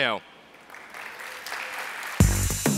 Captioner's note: applause